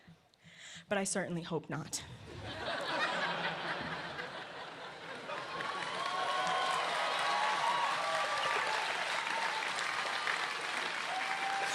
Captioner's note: laughter